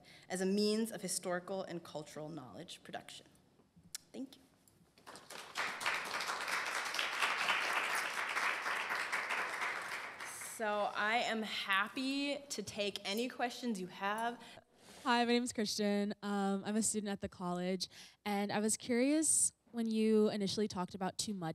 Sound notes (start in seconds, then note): 5.0 applause